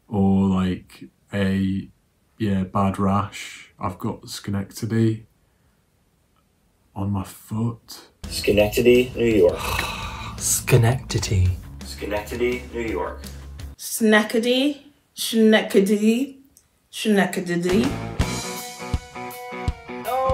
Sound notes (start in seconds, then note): 9.3 groans; 17.7 upbeat music